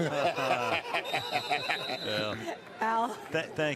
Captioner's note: laughs